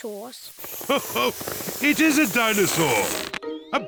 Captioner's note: laughs